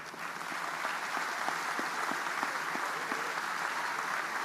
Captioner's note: audience applauding